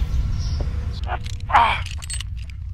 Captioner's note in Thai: เสียงออกแรง